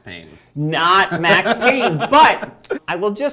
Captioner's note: laughing